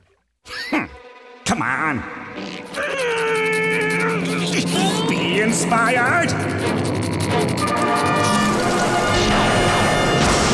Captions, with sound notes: [scoffs] Come on. [groaning] Be inspired.